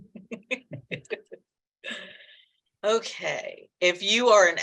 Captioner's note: chuckling